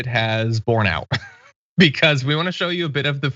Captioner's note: laugh